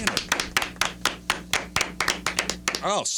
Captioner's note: clapping